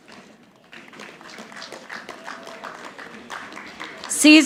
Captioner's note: audience applauding